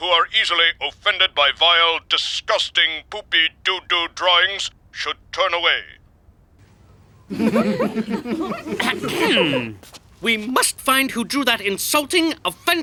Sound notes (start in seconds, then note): 7.3 chuckling; 8.8 clearing throat